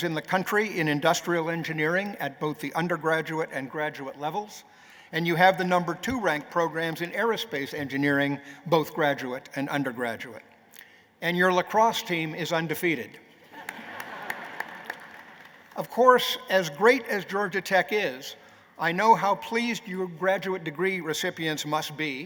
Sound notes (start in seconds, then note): 13.3 laughter